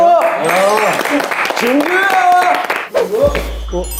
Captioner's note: warm applause for the host..!